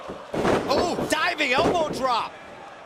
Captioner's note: crowd cheering